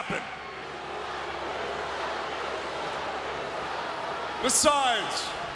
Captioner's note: audience jeering